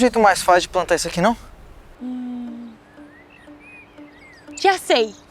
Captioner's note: birds